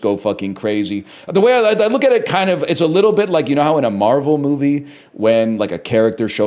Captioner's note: stutters